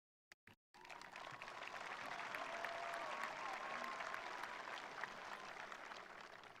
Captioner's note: attendees applauding; attendees cheering